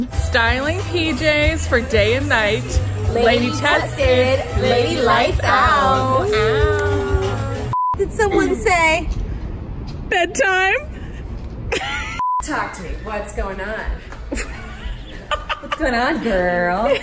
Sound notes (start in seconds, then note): 7.7 beep; 11.5 laughs; 12.2 beep; 14.3 laughs